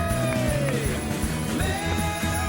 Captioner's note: cheering